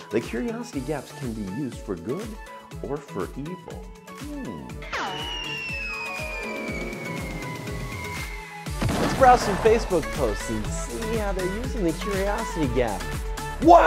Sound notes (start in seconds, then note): 4.9 graphic whistling